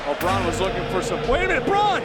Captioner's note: gong rings